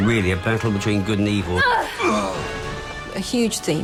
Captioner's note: grunting